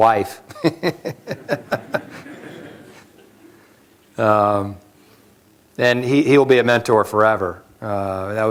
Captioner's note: laughter